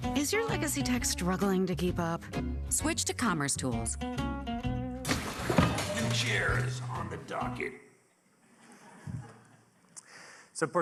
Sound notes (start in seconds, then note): 5.0 chair clattering; 8.5 audience laughing softly